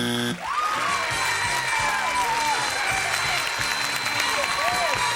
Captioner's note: buzzer; applause